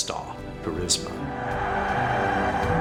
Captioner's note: crowd cheering